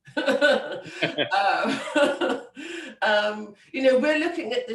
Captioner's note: laughing